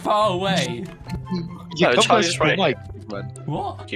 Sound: many People Speaking

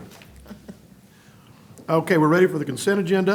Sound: laughter

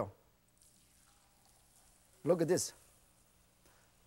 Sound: oil sizzling

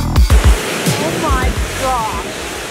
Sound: waves crashing

